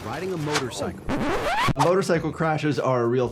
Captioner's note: record scratching